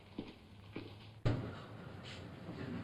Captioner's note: footsteps; thump